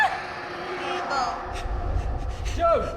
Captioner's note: Jo sobs